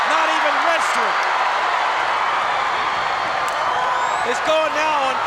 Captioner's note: crowd cheers